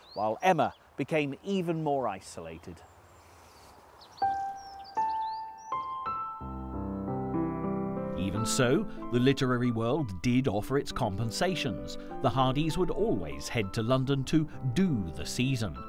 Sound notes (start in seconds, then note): 3.8 birds chirping; 3.8 light gentle music